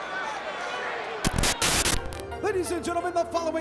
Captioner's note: static crackling; graphics hissing